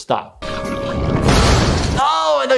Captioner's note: explosion booms